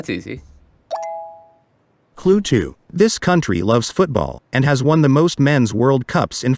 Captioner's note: chime